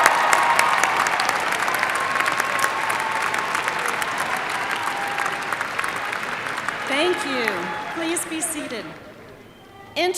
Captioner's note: cheers and applause